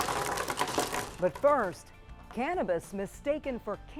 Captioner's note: candy thudding